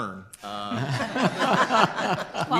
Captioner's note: group laughter